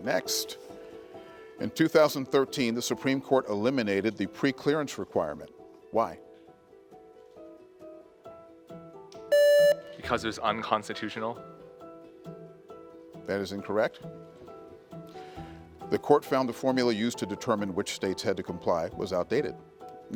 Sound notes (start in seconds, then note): 9.3 contestant beeping